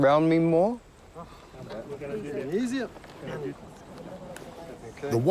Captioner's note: exhales